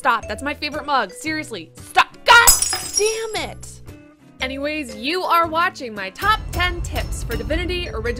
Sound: crash noise

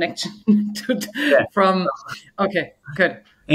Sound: murmuring

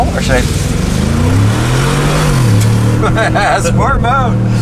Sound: car revs; laughs

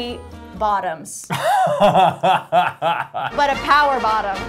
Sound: laughing

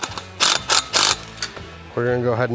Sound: electric drill whirring

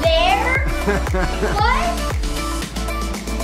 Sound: laughing

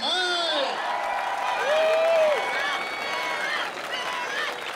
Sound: crowd cheering

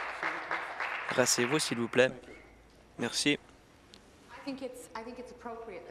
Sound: applause

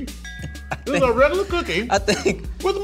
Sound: laughs

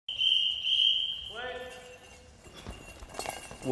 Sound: whistle

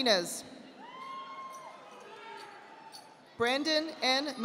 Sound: audience applauding

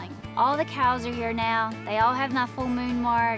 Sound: none

